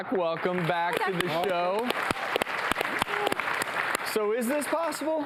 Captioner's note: clapping